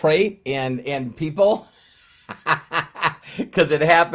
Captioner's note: chuckles